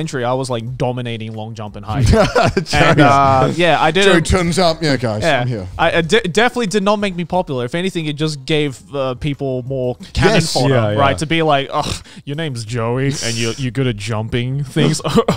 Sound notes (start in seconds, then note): 2.0 laughing